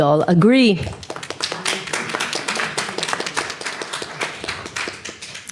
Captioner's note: audience applauds